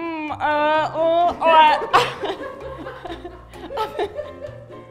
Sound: chuckles and are done! stick a fork in dem!

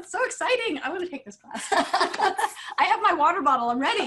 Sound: laughter

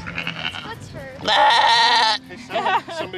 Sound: sheep baas; laughs

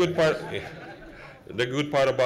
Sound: laughing

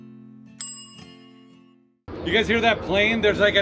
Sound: calm music; timer dinging

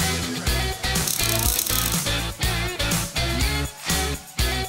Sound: upbeat music; welder whirring

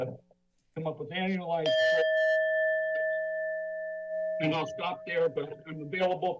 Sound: bell sound

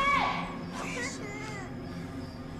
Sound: Sam crying

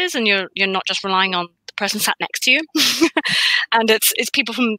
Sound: laughs

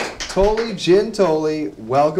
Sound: cheers and Applause

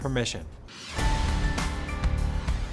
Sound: logo swooshing; bright music

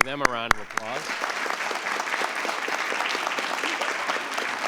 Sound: applause

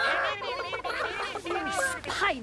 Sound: mimicking clucking

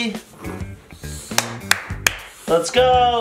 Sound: snores

